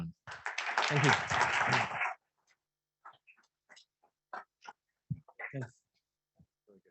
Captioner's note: audience applauds